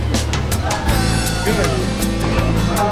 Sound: distant call

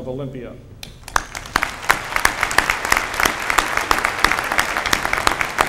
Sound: applause

